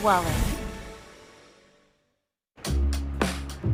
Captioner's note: fades to silence